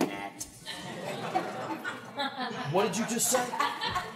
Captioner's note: laughter